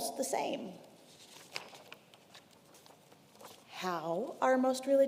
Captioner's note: paper rustling